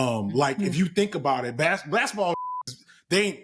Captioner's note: beep